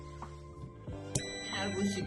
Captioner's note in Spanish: sonido: piiiiiii